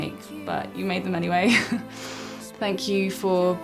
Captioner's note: chuckles